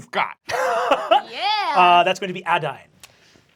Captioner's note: laughs